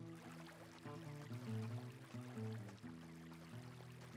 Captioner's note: water splashing